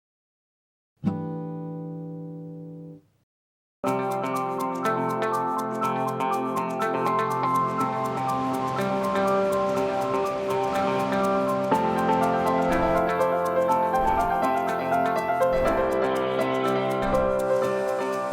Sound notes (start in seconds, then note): 2.7 bright instrumental music; 8.4 air whooshing; 11.5 bright instrumental music continues